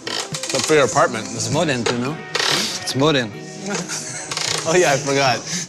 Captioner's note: both laugh